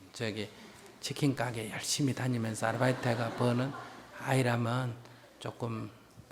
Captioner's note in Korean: 청중 웃음